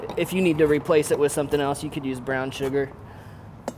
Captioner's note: none